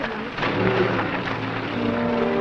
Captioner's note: engine running; vintage music